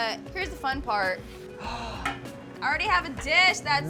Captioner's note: gasps